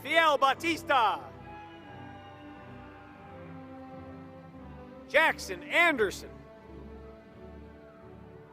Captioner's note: applause